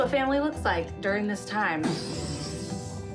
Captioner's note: vocalizes